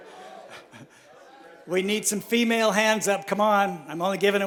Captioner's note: chuckles